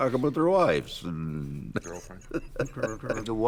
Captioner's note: laughing